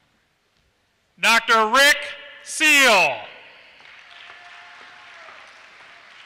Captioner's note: applause